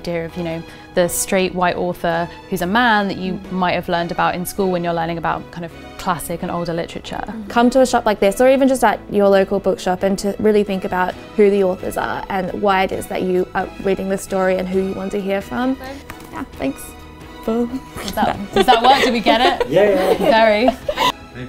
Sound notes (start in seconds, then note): 18.0 laughing